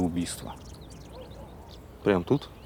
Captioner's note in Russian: щебетание птиц, лай собаки вдалеке